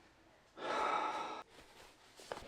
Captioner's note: deep sigh